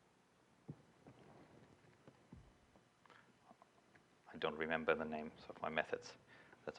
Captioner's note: pause